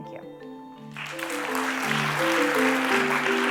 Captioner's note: applause